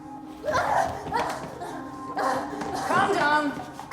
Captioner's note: Aleks grunting